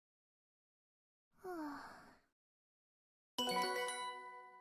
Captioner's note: sigh